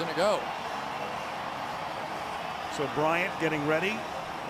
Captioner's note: cheering